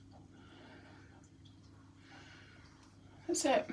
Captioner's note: breathing sounds